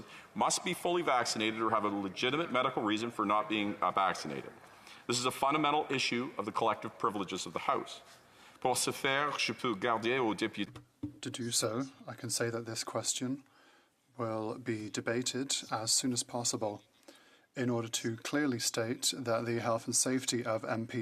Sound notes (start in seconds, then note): 13.8 speaking French